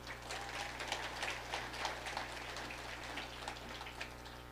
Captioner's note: audience applauding